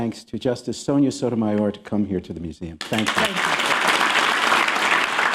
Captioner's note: applause